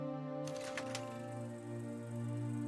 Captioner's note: projector clicks